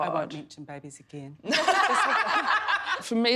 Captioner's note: laughing hysterically